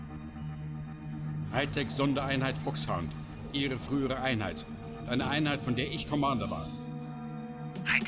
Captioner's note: speaking in German